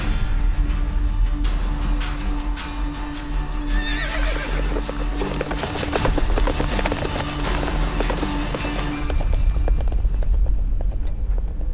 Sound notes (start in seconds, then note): 3.7 horse neighs; 4.3 horses trotting away